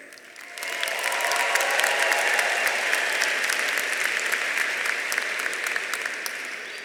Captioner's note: audience applauding; audience cheering